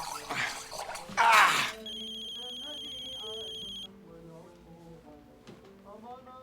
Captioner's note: gasping